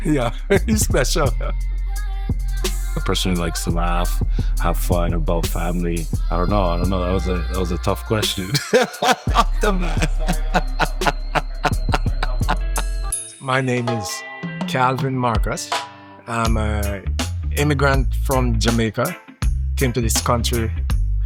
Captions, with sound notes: yeah, he's special A person who likes to laugh have fun, about family... I don't know, I don't know that was a tough question (laughs) off the bat (laughs) My name is Calvin Marcus I'm a... immigrant from Jamaica came to this country